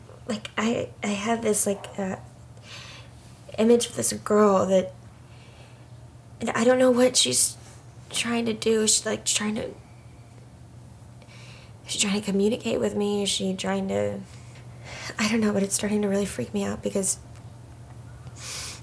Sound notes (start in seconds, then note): none